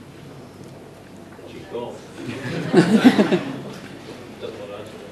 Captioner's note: laughter